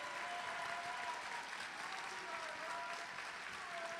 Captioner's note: applause